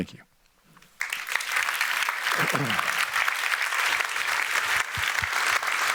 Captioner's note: applause